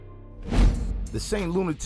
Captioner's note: hip-hop music; air whooshing